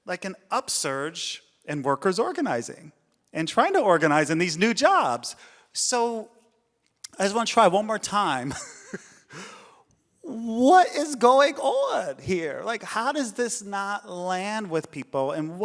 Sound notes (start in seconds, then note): 8.5 laughs